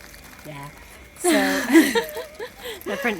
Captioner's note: women laughing